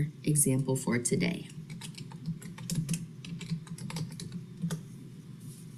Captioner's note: typing